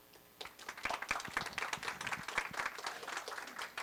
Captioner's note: applause